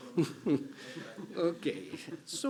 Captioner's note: chuckling